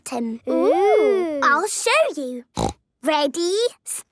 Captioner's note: snorting